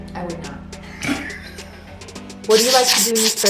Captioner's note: laughs